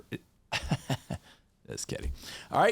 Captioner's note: chuckles